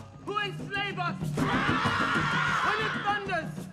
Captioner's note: all shouting